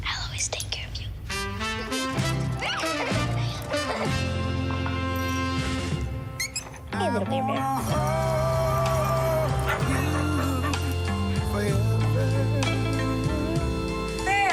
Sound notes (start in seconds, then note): 4.0 child laughs; 6.3 dog toy squeaks